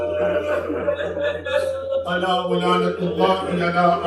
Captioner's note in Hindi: हंसी